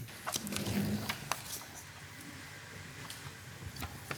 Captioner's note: paper rustling